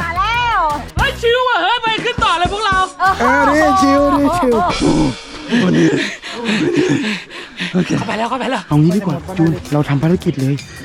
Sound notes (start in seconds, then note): 3.1 mocking; 4.7 pants